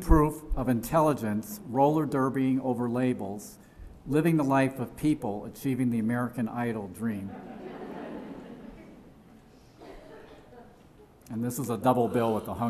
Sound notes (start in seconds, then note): 7.3 laughter